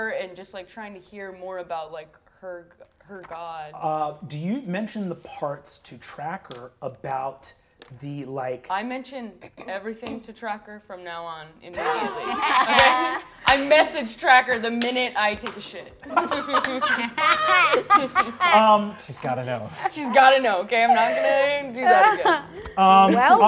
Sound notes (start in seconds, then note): 11.7 all laughing; 16.0 laugh